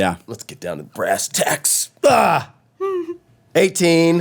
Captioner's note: groans